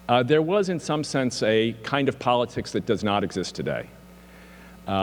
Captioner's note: none